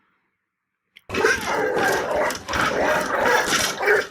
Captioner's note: dog barking